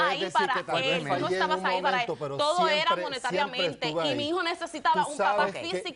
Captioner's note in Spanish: Hablan al unísono